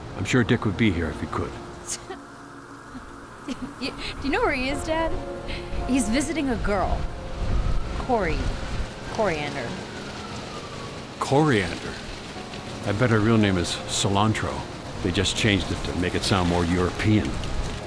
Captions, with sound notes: I'm sure Dick would be here if he could. (Barbara scoffs, laughs) Do ya know where he is, Dad? He's visiting a girl. Kory. Koriand'r. Koriand'r. I bet her real name is 'cilantro'. They just changed it to sound more European.